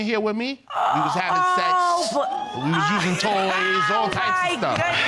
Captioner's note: laughs